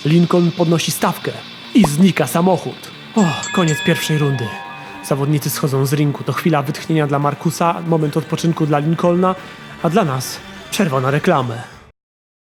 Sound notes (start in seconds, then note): 3.1 triple ring sound